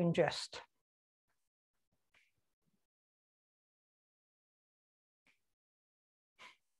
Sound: silence

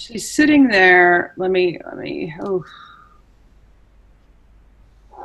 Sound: sighs

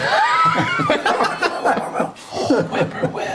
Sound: laughing

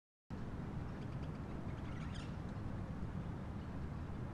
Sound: birds tweeting

